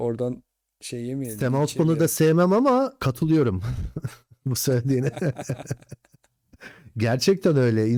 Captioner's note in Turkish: kahkaha